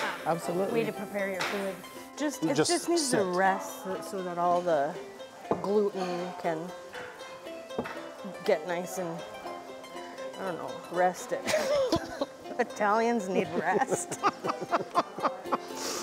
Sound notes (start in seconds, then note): 11.4 both laugh; 13.3 laughs